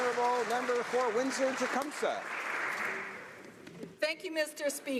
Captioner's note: applause